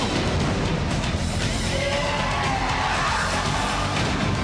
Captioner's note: lights shattering; explosion bangs